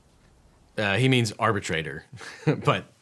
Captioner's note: laughs